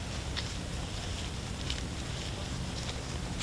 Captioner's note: deer walking in close proximity